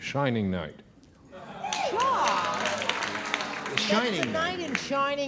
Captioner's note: applause